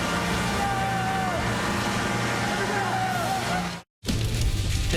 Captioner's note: cheering and Applause